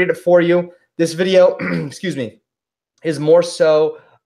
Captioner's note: clearing throat